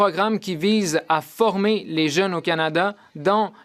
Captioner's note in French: voix de l'interprète